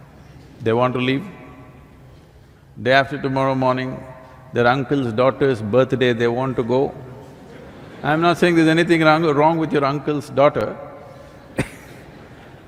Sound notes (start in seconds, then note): 7.4 laughter; 11.2 laughs